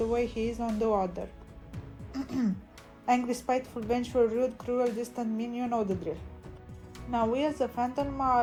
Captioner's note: ahem